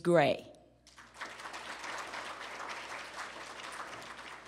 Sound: applause

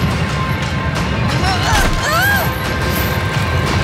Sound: groaning

